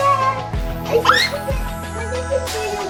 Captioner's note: child squeals excitedly